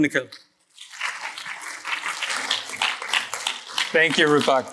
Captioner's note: applause